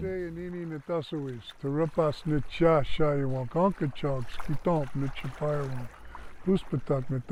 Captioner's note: speaking Native language